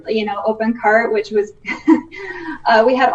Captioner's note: chuckling